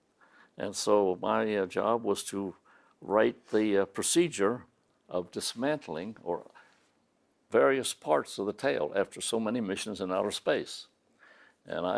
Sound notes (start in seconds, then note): none